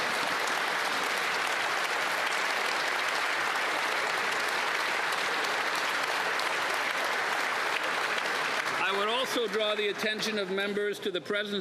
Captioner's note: applause